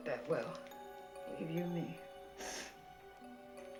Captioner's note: sniffles